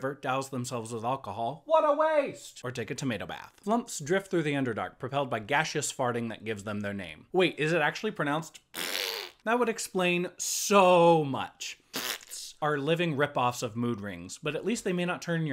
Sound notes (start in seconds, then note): 8.7 farting noise